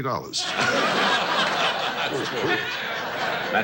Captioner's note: audience laughs